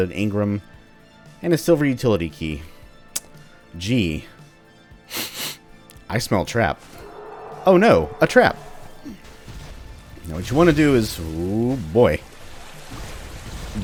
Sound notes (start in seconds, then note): 5.1 sniff sniff; 6.4 Destroyers howling